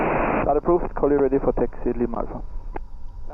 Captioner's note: static